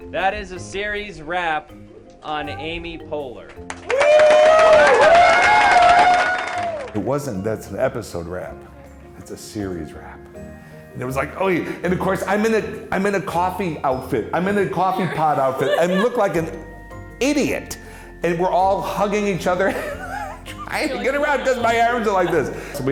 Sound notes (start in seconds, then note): 3.8 all cheer and applaud